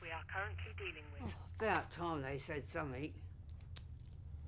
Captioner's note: intercom voice